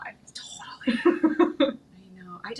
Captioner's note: chuckling